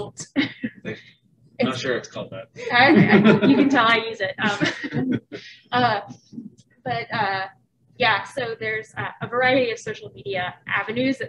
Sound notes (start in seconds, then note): 0.1 laughing; 2.6 group laughing